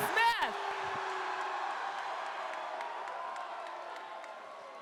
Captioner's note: crowd cheers